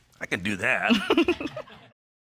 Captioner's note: giggles